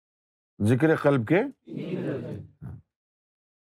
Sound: audience repeats

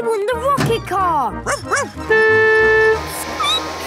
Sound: honking; barking; squeaking

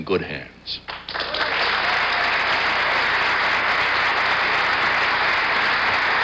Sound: audience applauding

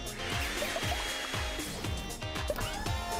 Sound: upbeat music; whirring

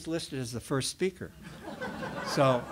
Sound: laughter

